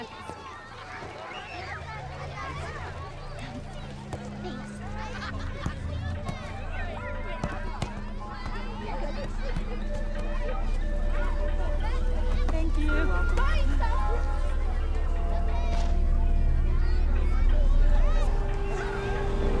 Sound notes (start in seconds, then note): 1.4 children chattering; 1.4 gentle ominous music; 5.2 football thudding; 5.7 children chattering; 14.4 children chattering; 14.4 foreboding music